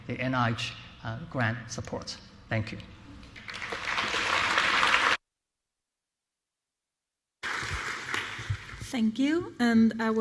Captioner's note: applause